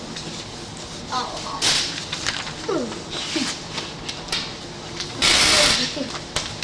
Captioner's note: speaking in Mandarin